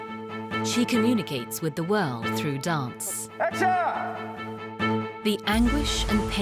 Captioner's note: voiceover